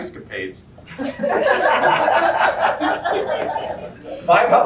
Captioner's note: laughter